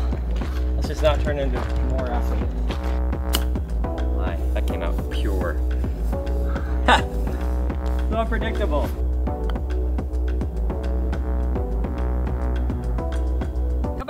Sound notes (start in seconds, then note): 3.3 golf club pings; 9.2 dramatic music